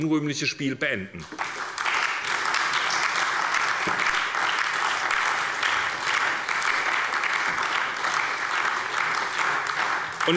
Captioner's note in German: Beifall bei der SPD und bei der LINKEN